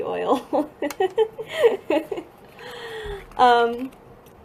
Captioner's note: laughing